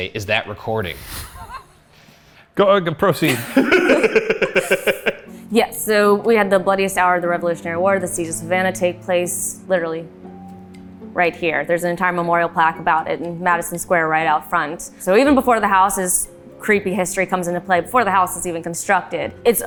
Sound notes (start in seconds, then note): 3.2 laughs